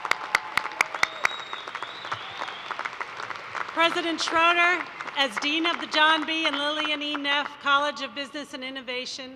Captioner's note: cheers and applause